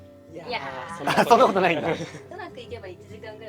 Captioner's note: laughs